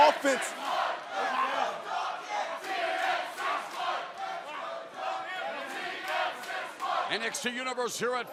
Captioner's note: crowd cheering